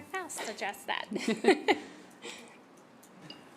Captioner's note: laughter